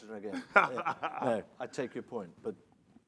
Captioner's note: laughing